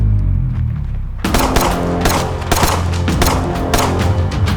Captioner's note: gunshot booming